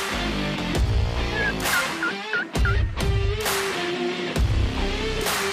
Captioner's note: turkey call yelping; upbeat music continues